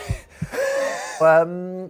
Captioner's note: heart beating; wheezes